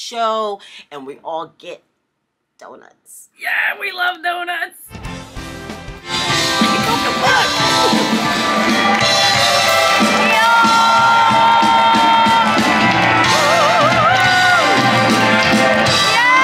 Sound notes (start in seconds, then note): 4.8 upbeat music; 9.9 audience cheers and applauds